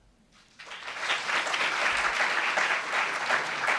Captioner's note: applauds